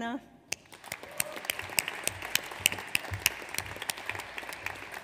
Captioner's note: audience applauds